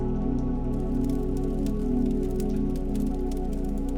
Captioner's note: fire crackling